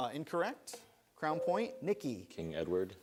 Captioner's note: buzzer sounds